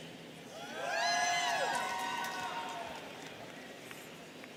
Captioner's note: students cheering